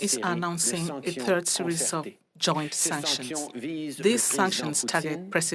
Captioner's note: speaking French